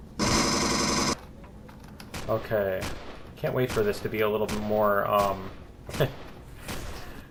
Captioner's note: pulse rifle; turret firing; laughs